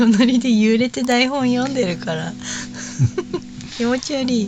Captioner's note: laughs